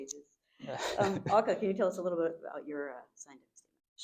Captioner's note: group laughs